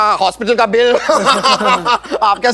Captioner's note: Laughs